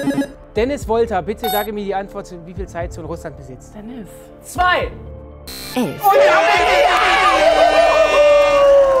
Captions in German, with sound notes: Dennis Wolter, bitte sage mir die Antwort zu wie viele Zeitzonen Russland besitzt. Zwei! (Lautes Jubeln, Tröte)